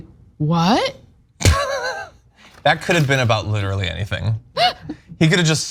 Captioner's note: laugh; laugh